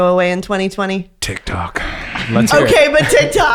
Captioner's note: sighs loudly